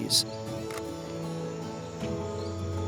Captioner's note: camera clicks